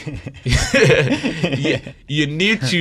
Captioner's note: group laughing